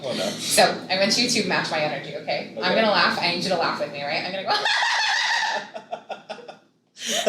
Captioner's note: laughs